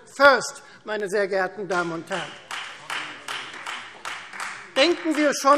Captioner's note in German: Beifall Freie Demokraten